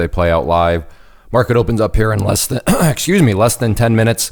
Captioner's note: coughing